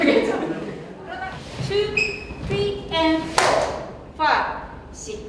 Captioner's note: in English